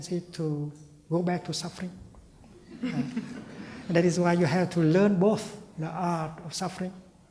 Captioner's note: laughter